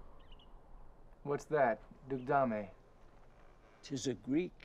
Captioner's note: speaking in foreign language